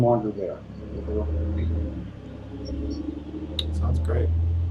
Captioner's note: car engine rumbling drowns out speaker